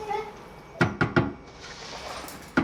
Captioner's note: ladle tapping